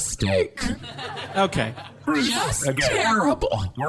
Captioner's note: audience laughter